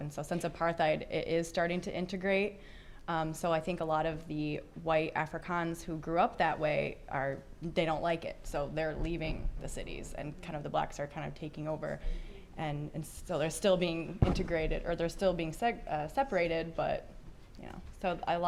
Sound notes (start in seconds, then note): none